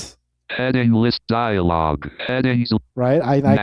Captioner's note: automated Voice